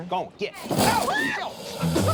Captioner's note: growling; screams